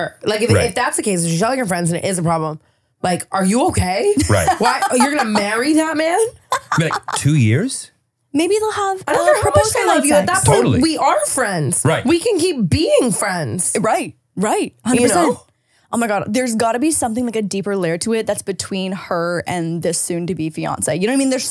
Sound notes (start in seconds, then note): 4.1 laughing